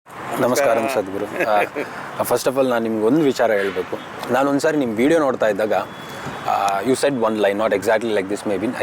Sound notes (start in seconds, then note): 0.4 Sadhguru Laughs; 2.0 speaks in Kannada – not transcribed